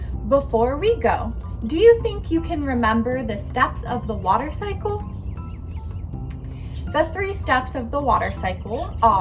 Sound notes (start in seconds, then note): 5.2 birds chirping; 5.2 gentle music